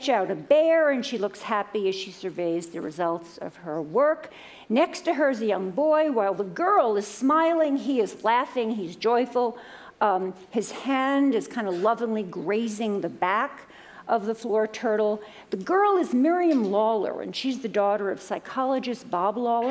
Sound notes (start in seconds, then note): none